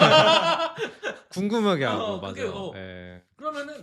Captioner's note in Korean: 웃음